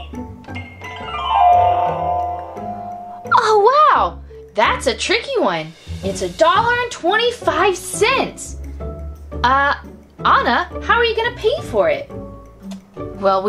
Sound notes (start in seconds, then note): 0.5 harp glissando; 3.2 voiceover